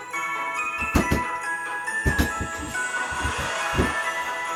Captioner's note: hammer banging